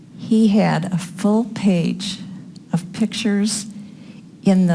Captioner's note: none